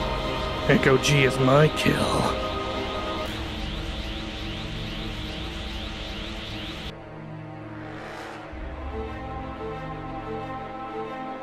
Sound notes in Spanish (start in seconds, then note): none